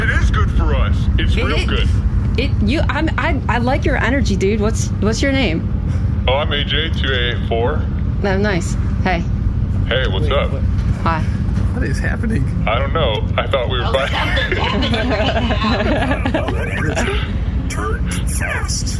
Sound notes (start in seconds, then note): 6.9 calmly; 8.8 slightly flirtatious; 13.9 quiet laughter